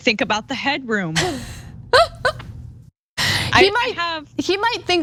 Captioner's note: laugh